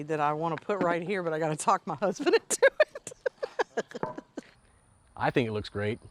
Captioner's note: laughs